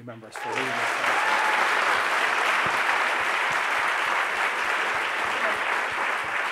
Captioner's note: audience applauds